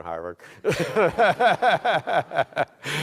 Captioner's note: laughing